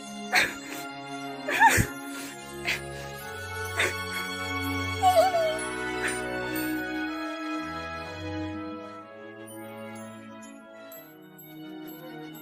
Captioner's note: both cry